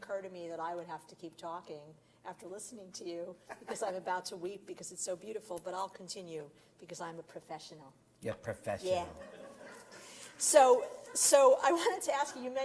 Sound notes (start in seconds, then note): 9.5 Brooklyn Accent; 10.7 laughter